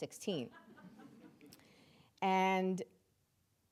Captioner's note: audience members laughing